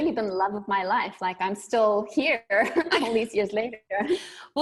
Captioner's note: both laughing